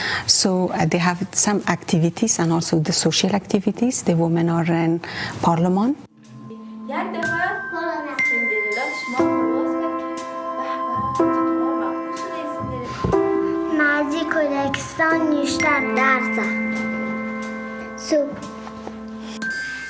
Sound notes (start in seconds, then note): 6.6 children speaking foreign language